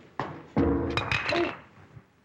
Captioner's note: clanks